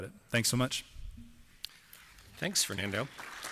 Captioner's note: applause